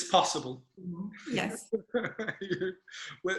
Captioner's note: chuckles